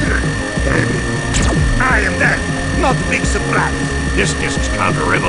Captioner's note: pew!